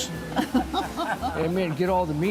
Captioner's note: laughter